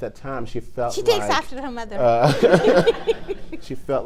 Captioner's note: all laugh